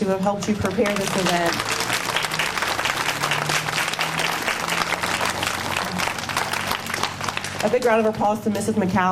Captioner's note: applause